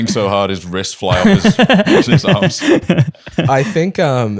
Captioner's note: laughter